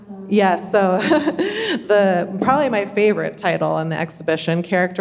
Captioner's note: chuckles